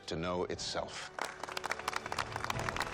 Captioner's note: applause